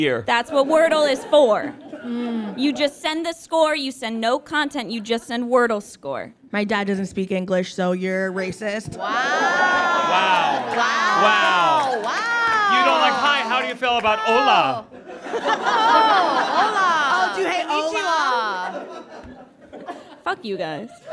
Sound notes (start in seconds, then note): 9.0 audience guffaws; 14.9 audience laughs